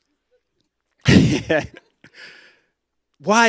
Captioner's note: laughs